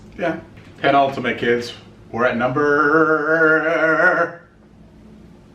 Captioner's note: murmurs